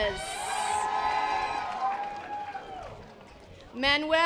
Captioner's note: audience applause